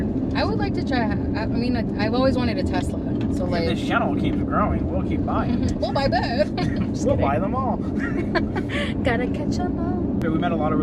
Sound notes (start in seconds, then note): 5.4 laughs; 7.8 both laughs